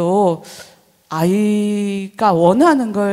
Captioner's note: none